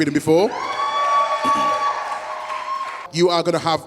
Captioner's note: audience cheers